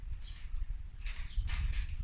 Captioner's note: birdsong